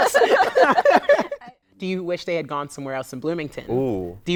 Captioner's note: laughter